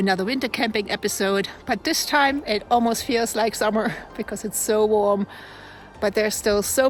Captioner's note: laughs